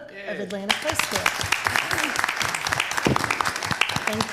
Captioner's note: applause